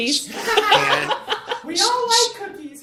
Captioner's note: laughter